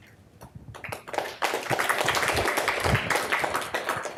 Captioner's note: applause